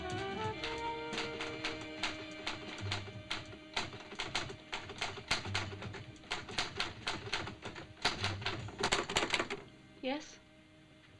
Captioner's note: jazz beat; typewriter chattering